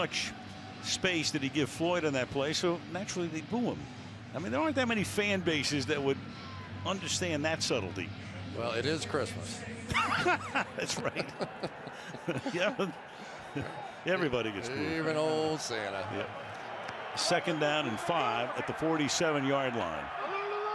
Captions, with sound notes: Too much space did he give Floyd on that play. So naturally, they'd boo him. I mean, there aren't that many fan bases that would understand that subtlety. Well, it is Christmas. [laughter] That's right. Yeah. Everybody gets booed. Even old Santa. Yeah. Second down and 5 at the 47-yard line.